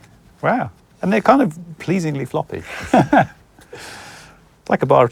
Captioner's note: laughs